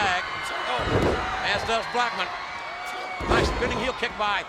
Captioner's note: crowd cheering